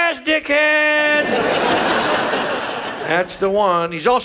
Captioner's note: audience laughs